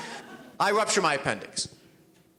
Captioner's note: audience laughs